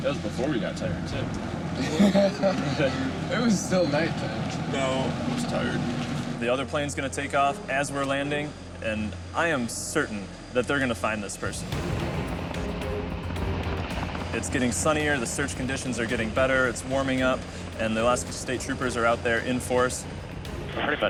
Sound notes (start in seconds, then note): 1.6 man laughing; 12.2 intense music